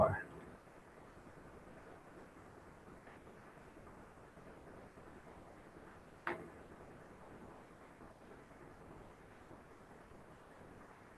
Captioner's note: pause